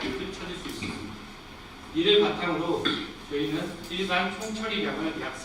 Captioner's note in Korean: 목을 가다듬음